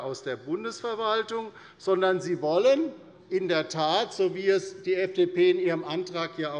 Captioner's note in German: none